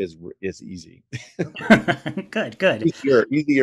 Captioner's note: both laugh